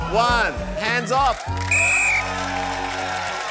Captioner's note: blows whistle